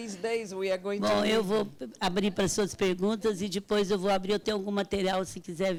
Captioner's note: speaking Portuguese